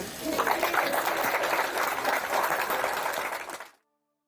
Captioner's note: audience applauding